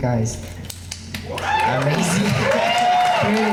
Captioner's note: crowd applause